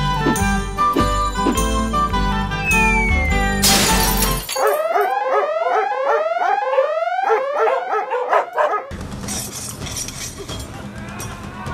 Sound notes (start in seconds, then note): 0.0 celebratory music; 0.1 whoosh of canes; 2.6 high pitched falling sound; 3.4 crash; 4.6 alarm siren; 4.6 dogs barking; 8.8 dramatic music; 9.2 weapons clashing